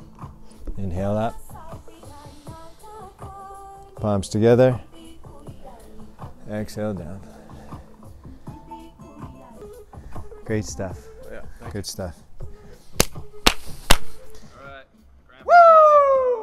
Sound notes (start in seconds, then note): 13.8 exclamation